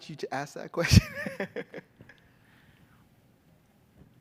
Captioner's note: laughs